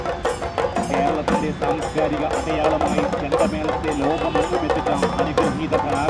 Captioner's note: announcement continues